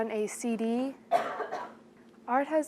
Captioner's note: student coughs